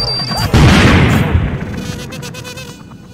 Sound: boom

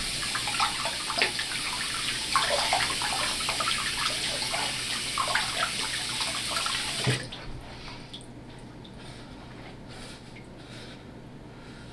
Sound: water flowing

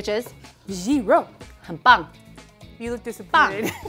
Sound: speaking in mandarin

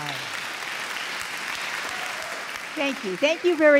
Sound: audience clapping

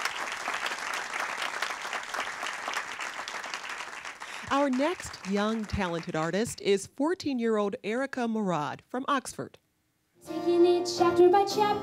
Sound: applause

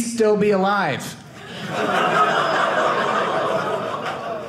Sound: audience laughing

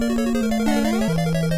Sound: castle music; jump sound

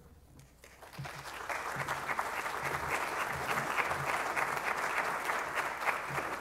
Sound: crowd applauds

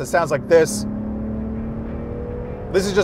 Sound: exhaust roaring

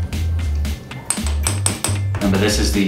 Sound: tapping on glass

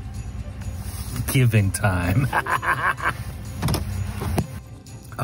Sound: laughs

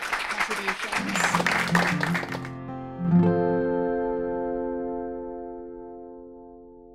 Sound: audience applauding; gentle music

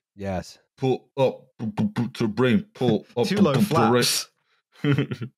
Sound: beatboxes; chuckles

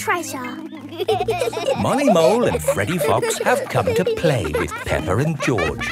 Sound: laughing

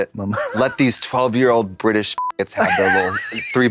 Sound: beep

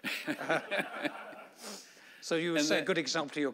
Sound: laughing

